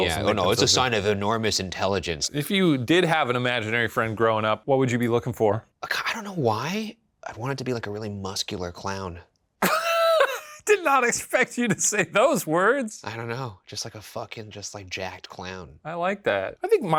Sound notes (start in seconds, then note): 9.6 Shane laughs